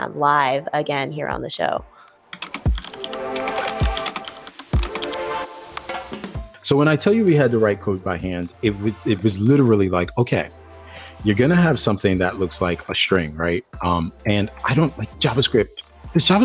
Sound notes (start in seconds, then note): 2.3 keyboard clattering; 2.6 upbeat music